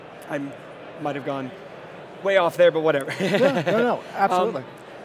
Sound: laughing

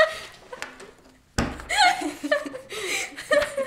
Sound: laughing loudly; slaps table; laughs

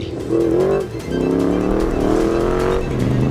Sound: engine roaring

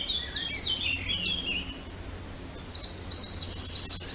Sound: Sound effect: 169024__klankbeeld__forest-spring-birds-windy-3bft-1pm.wav

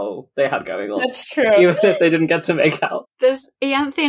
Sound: laughing

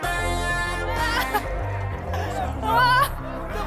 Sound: screaming

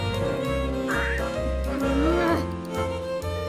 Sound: caws again

